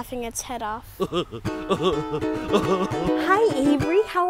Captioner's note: laughing; upbeat guitar music